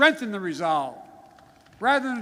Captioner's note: applause